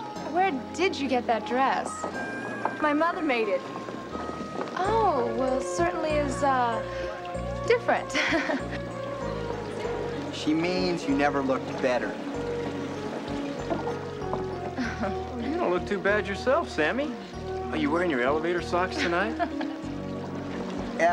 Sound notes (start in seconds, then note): 8.1 chuckling